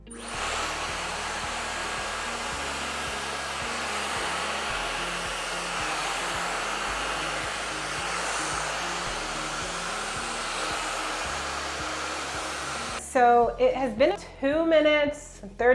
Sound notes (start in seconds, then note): 7.2 hair dryer sound